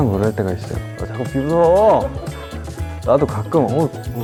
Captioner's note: haha